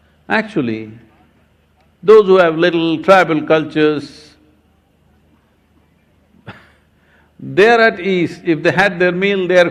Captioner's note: laughs